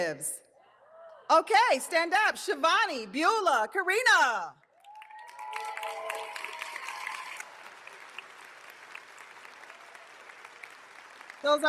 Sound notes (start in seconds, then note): 1.1 audience cheers; 4.8 audience cheering; 7.6 audience applauding